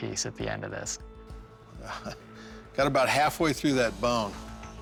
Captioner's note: chuckle